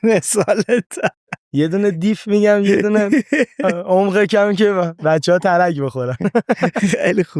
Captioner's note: laughs; laughs